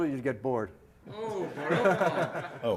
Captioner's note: laughter